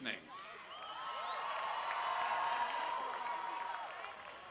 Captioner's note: cheering